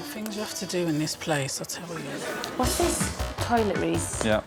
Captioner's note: sighs